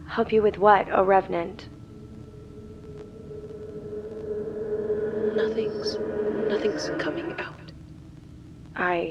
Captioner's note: whispering